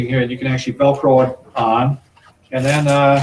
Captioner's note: velcro ripping